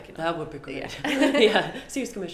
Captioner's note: laugh